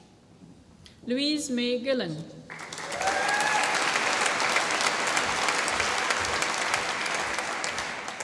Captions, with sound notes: Louise Mae Gillen. (APPLAUSE)